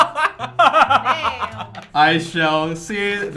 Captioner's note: laughs